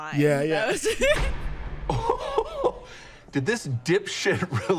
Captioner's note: laughs